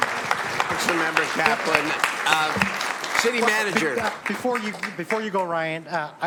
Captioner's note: applause